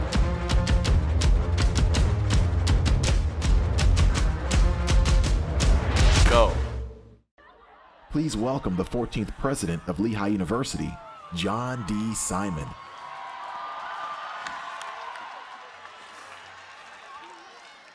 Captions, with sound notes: GO. Please welcome the 14th president of Lehigh University, John D Simon. [APPLAUSE]